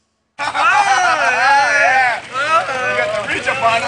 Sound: loud laughter

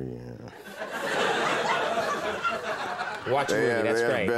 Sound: audience laughing

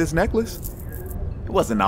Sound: Kameron jingles the necklace

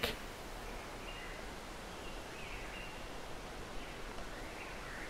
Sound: birds chirping

